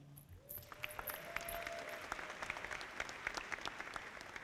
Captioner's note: audience clapping